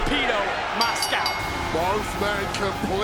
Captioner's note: bell rings